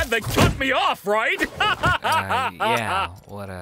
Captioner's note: laughing heartily